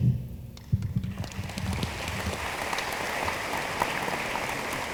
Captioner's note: room applauds